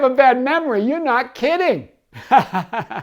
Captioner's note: laughs